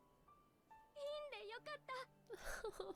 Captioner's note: in Japanese